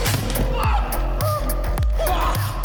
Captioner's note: case hitting concrete